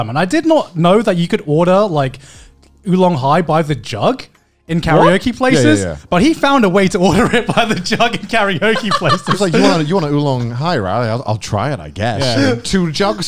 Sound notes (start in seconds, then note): 7.1 laughs